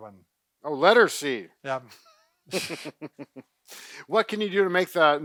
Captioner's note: laughs